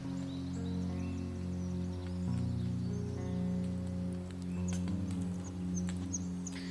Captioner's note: birds chirping